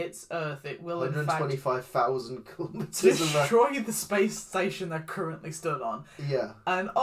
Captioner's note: laughs